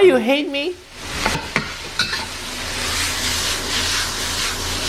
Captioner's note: food sizzling